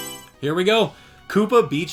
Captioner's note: Mario Selection Sound